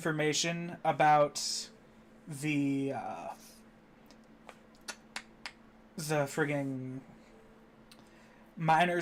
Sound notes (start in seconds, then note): 4.4 snapping